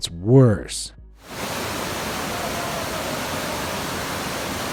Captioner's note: water roaring